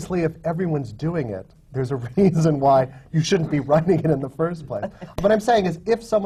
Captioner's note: laughs